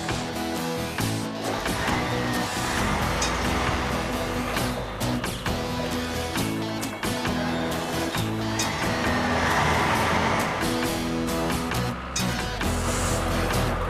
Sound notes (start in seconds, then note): 5.6 engines Running